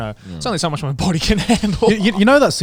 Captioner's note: chuckles